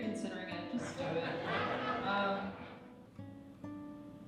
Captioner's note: laughing